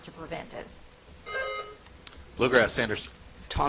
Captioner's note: buzzer chimes